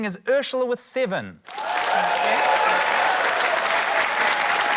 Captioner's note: cheering, applause